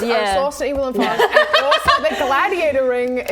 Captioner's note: laughing